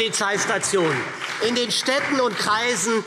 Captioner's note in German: Beifall SPD